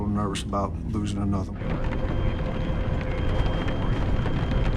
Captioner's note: rumbling